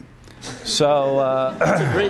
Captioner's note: laughter